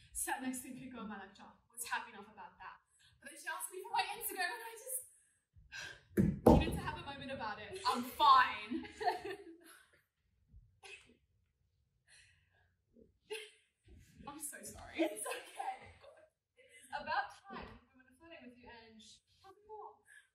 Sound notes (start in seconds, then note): 8.7 both laughing